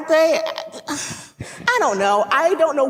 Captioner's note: sighs